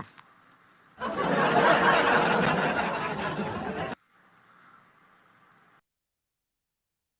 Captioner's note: Ketawa